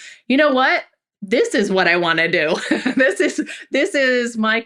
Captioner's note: laughs